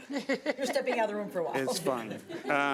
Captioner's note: chuckling